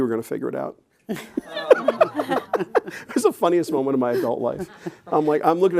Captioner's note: chuckles